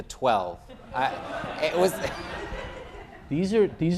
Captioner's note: laughter